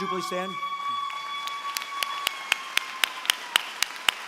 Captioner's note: applause